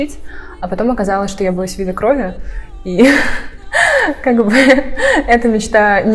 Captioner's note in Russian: смех